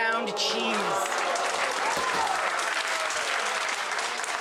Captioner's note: audience applause